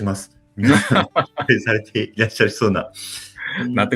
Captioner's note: laughs